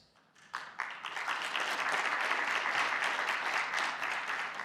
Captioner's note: audience clapping